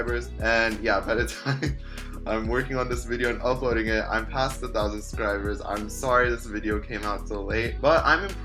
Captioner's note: laughs